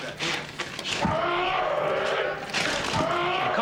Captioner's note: grunting continues; blows